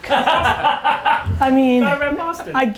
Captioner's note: laughter